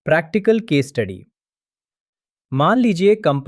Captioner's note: pause